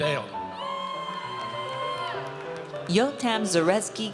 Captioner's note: audience cheers